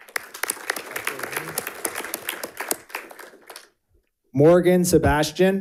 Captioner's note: audience applauding